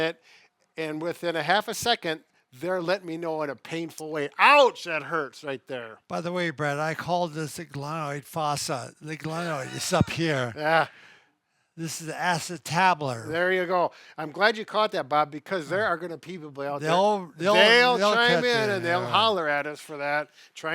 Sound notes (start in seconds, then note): 9.4 laughs